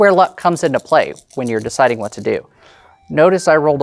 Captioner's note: dice rattling; new song begins